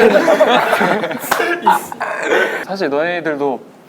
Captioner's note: laughing